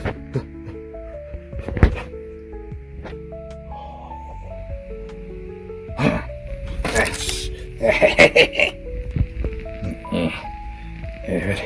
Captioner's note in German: Gremlin-Geräusche